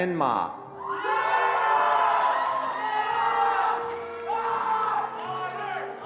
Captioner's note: attendees cheering and applauding